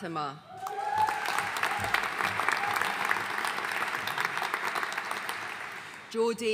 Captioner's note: audience cheering and applauding